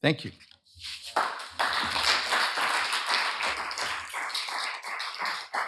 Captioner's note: applause